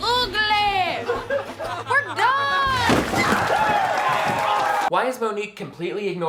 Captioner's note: boys laughing